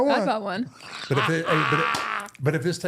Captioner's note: R-Truth laughing